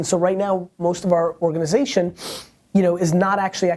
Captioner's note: sniffs